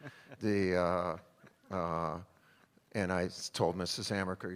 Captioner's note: laughter